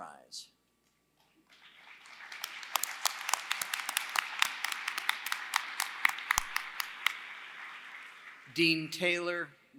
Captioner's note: applause